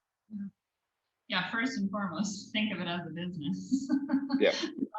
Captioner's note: laugh